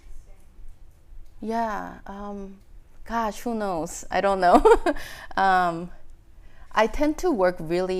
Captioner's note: laughing